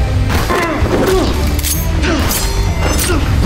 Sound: intense music; grunts

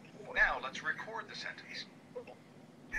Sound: voiceover

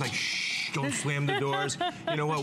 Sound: laughter

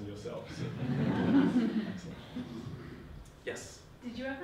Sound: audience laughing

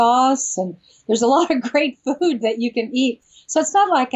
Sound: laughs

